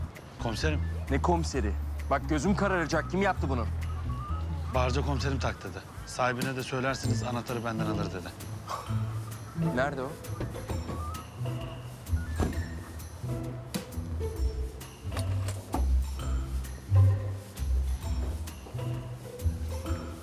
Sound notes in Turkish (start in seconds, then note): 10.6 Kapı açılma sesi; 12.2 Kapı kapanma sesi